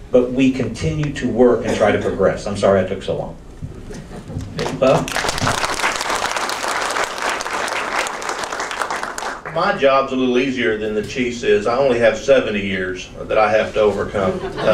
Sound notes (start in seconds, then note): 4.3 audience claps